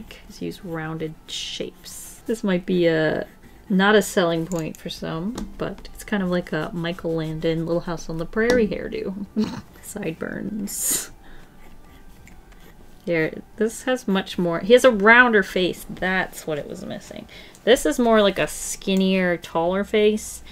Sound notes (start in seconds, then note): 9.3 snorts